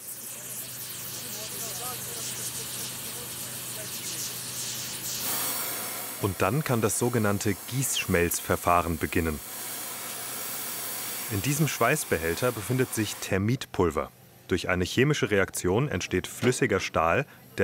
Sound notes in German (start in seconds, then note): 0.2 Zischen, Stimmengewirr; 9.9 Zischen